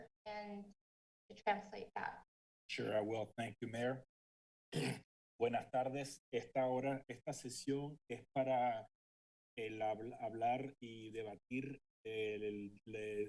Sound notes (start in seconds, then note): 5.5 speaking in foreign language